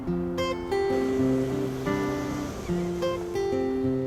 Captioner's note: ocean sounds